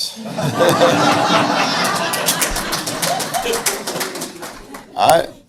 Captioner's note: audience laughs and applauds